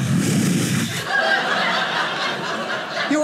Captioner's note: audience laughing